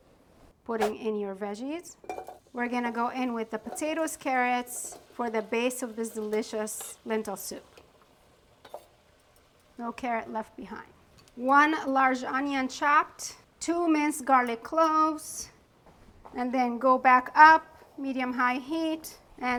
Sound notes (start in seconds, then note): 2.0 food plopping; 7.8 food sizzling